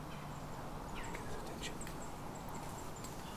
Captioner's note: whispering